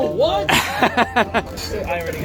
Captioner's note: laughs mockingly